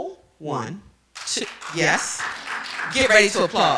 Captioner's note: applause